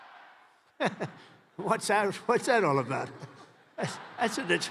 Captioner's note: laughs